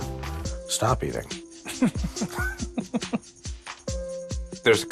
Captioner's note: chuckles